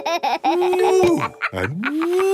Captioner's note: laughs